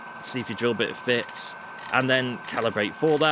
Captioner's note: ASMR micrometer clicks